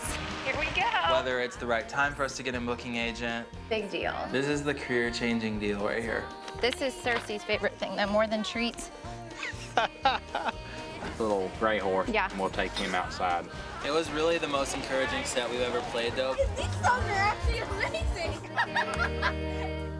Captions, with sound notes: - Had to get rain jackets. Here we go! - Whether it's the right time for us to get a booking agent. - Big deal. - This is the career changing deal right here. - This is the Cercei's favorite thing, though, more than treats. [man laughing] - Little gray horse. - Yeah. - And we'll take him outside. - It was really the most encouraging set we've ever played though. - 'Cause these songs are actually amazing!